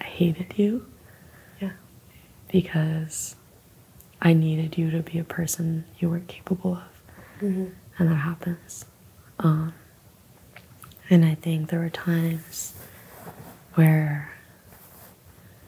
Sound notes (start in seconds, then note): none